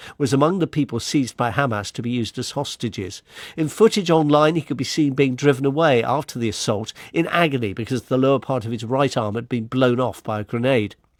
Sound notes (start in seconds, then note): none